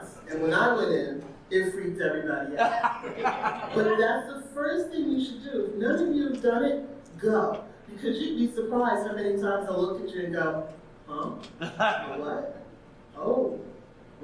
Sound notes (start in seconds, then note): 2.7 audience member laughing